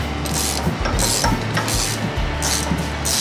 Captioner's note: ratcheting